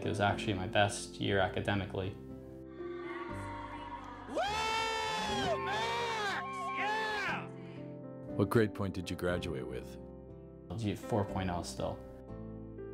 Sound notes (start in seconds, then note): 4.2 cheering